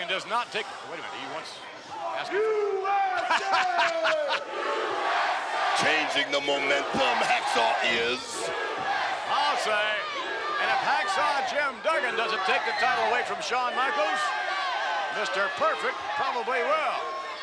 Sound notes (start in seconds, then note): 3.1 Vince laughs; 5.2 crowd chants "USA"